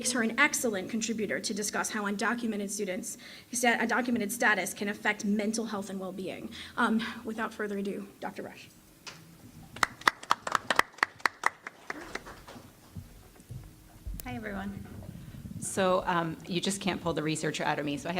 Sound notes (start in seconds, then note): 9.7 applause